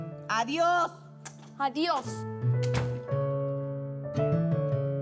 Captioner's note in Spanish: Portazo